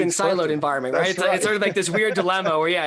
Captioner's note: laughs